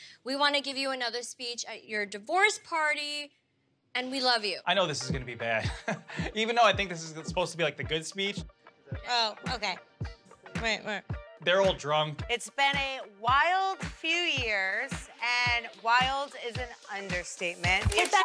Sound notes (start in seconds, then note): 5.3 chuckles lightly